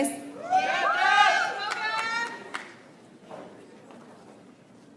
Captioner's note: audience applauds